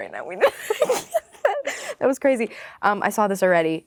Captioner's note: laughing